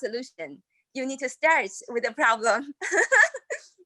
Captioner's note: laughs